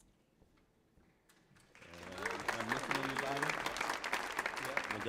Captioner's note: audience applauding